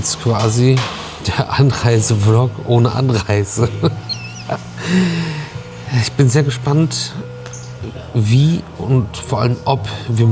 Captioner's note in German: gelächter